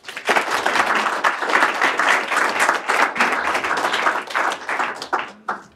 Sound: applause

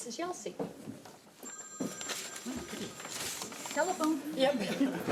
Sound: phone ringing; everyone laughing

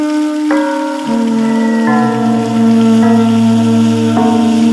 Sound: metallic echoing

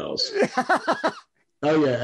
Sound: laughs

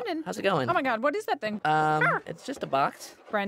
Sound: dog yelps

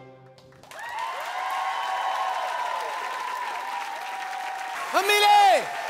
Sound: applause

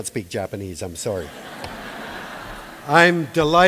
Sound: laughter

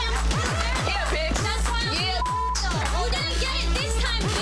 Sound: tense electronic music; beep

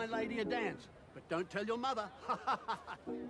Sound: laughs; lilting music playing

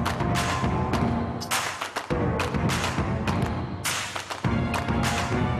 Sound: applae

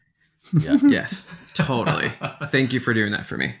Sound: laughing

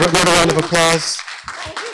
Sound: applause

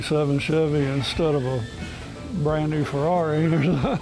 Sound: laughs

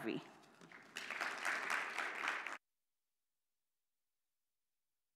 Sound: attendees applauding

